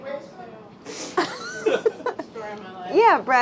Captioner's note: laughing